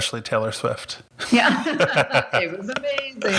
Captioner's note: both laugh